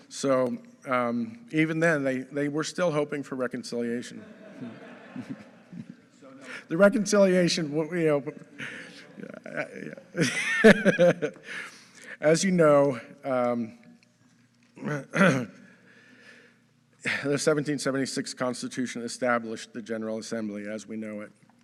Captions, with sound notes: So even then they were still hoping for reconciliation. (audience laughing) - So no- - The reconciliation, what we hope. (laughs) As you know, the 1776 Constitution established the General Assembly as we know it.